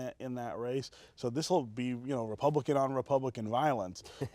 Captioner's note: laughter